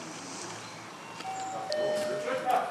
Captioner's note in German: Türklingel